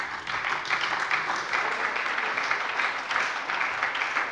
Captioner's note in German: Beifall bei der SPD